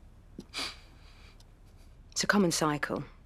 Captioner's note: sniffling